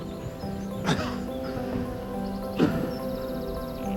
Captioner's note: breathing heavily